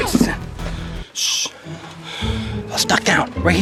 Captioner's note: shushing